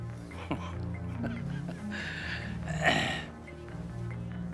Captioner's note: chuckling